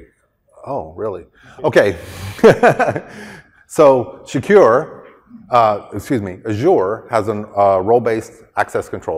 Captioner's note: laughter